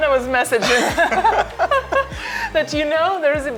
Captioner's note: both laughing